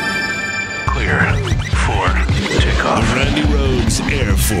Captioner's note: radio Voice